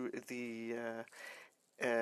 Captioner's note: speaking French